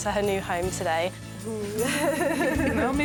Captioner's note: laughs